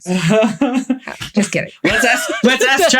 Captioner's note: laughing